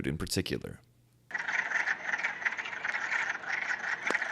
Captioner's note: croaking